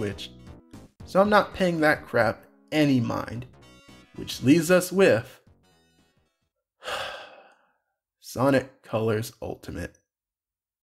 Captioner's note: sigh